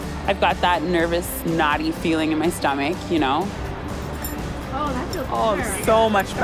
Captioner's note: none